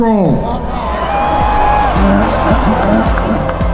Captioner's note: crowd cheering